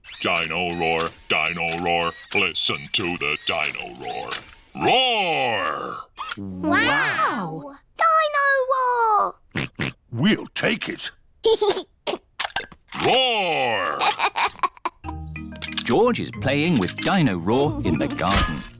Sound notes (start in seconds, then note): 9.5 oinks; 11.5 giggles; 13.6 giggles